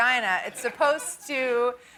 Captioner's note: laughter